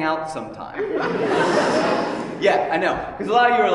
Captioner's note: laughter